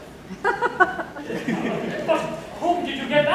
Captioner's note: laughter